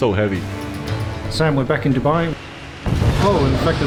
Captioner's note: engine blasts